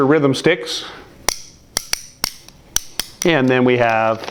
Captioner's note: sticks hitting